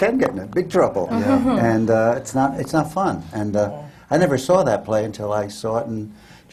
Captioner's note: laughs; sympathetic laughter